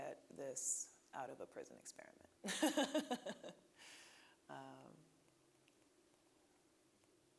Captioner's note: laughing